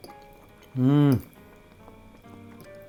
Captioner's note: mmmm!!